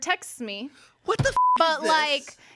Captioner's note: beep